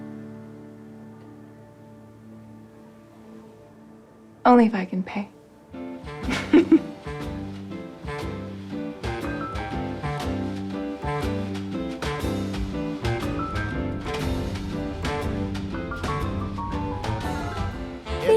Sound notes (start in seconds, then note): 6.2 Vivian laughs; 7.8 jazzy music